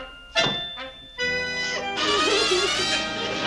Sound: sobs

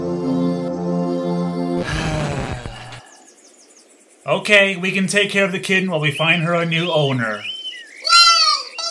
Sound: sighs

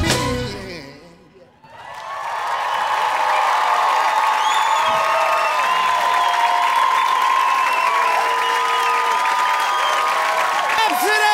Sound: applause

